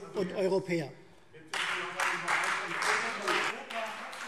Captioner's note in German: Beifall Freie Demokraten